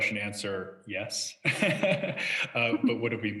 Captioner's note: laughs